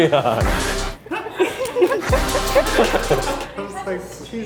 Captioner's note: laughing